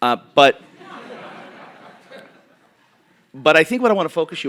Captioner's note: audience laughing